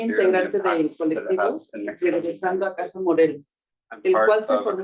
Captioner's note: speaking Spanish